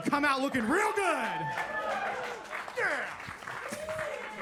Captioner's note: attendees cheer and clap